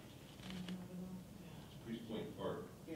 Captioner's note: woman muttering